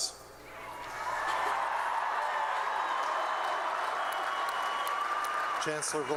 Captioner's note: applause